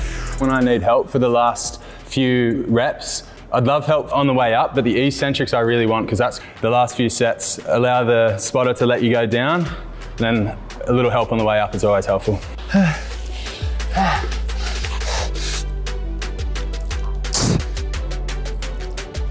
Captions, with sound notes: When I need help for the last few reps, I'd love help on the way up but the eccentric I really want, 'cause that's the last few set. Allow the spotter to let you go down then a little help on the way up is always helpful. (breathing heavily) (upbeat music)